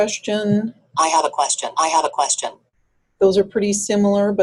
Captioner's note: voiceover